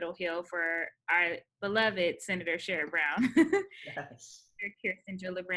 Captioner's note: laughs